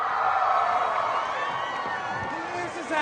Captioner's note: cheering